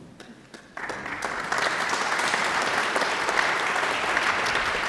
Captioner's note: audience applauds